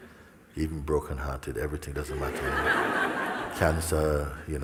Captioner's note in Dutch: gelach